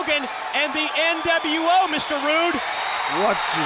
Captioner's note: audience cheers